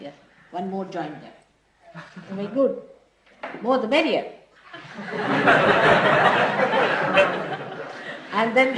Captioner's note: laughter